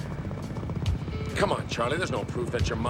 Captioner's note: helicopter